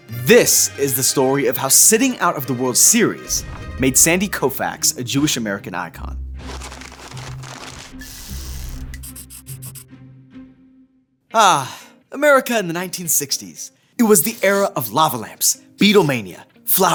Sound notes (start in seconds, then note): 6.4 text rustling; 9.1 pen scratching